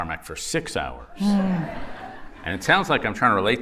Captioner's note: laughter